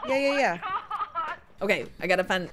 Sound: laugh

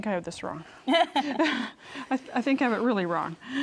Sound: both laugh

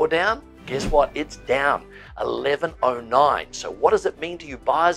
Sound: air whooshing

